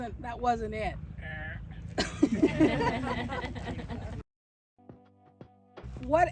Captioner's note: audience: "errr." then laughter